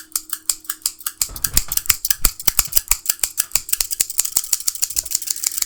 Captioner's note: shears swiftly clanking